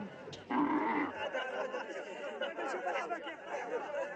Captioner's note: chattering